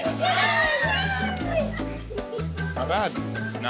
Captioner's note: cheering